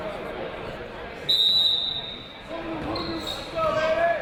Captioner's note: whistle blowing